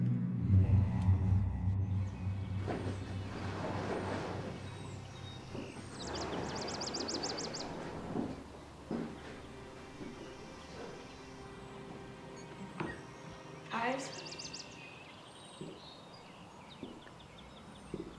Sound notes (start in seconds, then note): 0.0 dramatic music; 5.5 birds chirping; 9.4 gentle music; 11.9 birds chirping